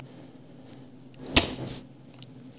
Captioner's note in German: Klick